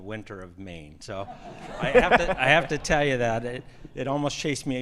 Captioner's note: attendees laughing